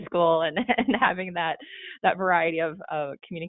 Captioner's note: chuckling